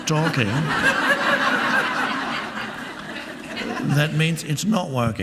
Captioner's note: audience laughing